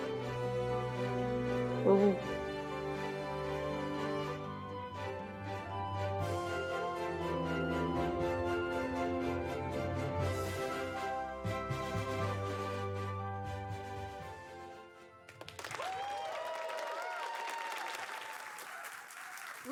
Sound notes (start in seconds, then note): 8.0 applause